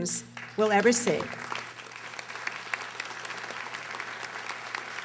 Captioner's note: audience applauding